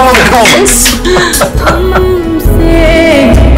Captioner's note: Rohit laughing